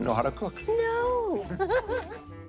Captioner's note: laughs